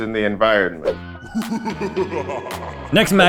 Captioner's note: foreboding laughter